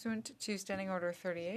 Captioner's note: speaking French